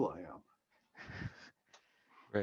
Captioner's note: chuckling